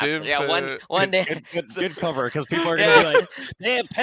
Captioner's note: laughs